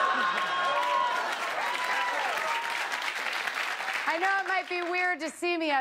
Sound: laughter; cheers and applause

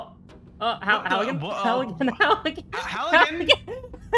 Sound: laughter

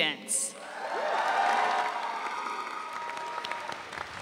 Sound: audience cheering

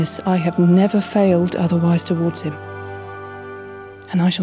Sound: none

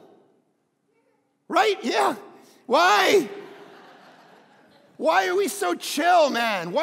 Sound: crowd laughing

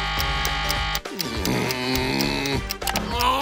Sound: groaning

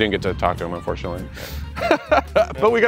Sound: laughs

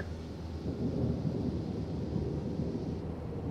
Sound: thunder rumbles

